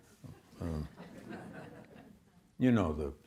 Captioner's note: audience laughs